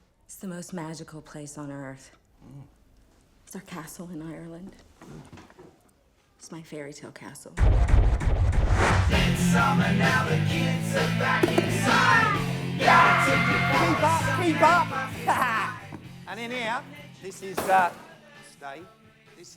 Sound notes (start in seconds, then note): 12.7 thorne screams; 15.4 laughs